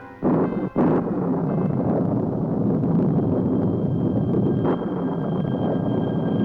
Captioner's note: thunder booms